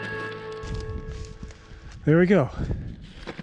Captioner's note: gravel crunching